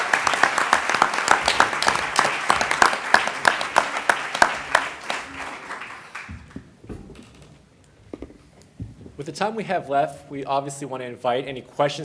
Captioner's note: applause